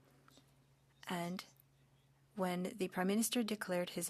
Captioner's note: speaking French